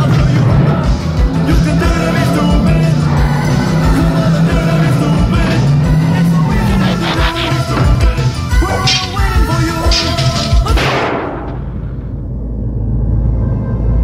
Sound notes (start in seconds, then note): 10.7 gunshot